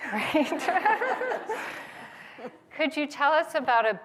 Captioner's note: laughter